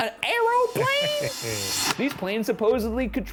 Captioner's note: slide projector clicks